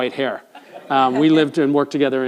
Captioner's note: audience laughs